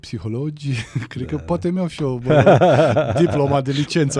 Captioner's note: laughter